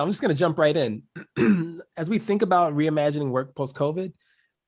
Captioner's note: cough